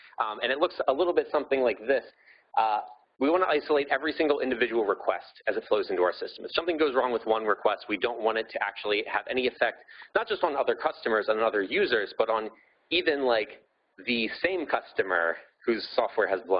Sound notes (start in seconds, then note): none